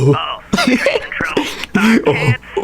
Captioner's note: laughs to myself